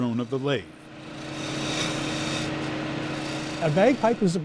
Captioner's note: lathe whirring